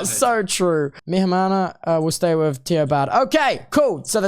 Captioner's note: Spanish